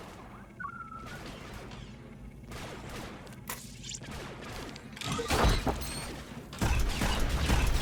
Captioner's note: gunshots